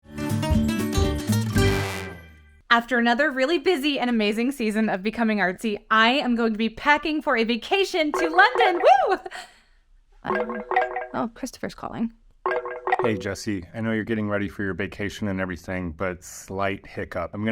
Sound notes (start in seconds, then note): 1.5 upbeat music; 10.3 phone ringing